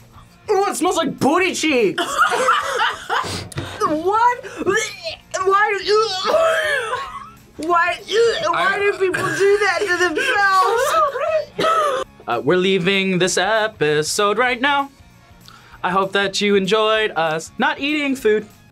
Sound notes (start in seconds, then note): 2.0 laughs; 5.8 gags and coughs; 5.8 gags